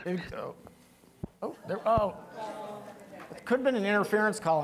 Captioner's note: woman whispering; people moaning